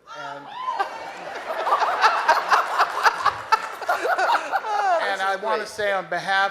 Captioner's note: audience cheering